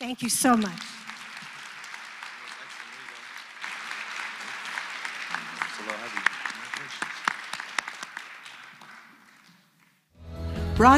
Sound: applause

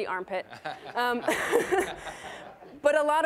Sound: all laughing

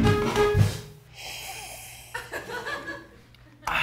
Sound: sips

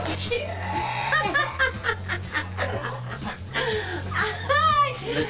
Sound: laughs

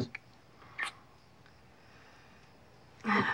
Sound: lips smack gently; sighs

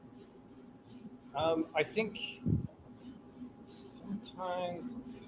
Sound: faintly speaking

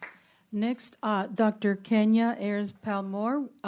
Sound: clapping

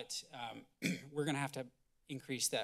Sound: clears throat

